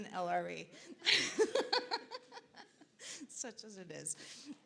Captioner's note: laughs